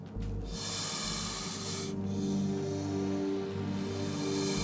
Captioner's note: snake hissing